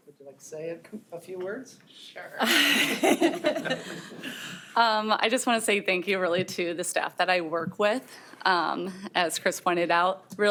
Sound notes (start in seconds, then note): 2.4 group laughing